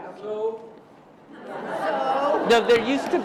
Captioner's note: laughter